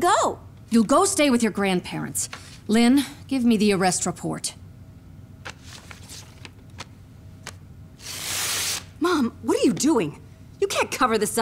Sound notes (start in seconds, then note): 8.0 ripping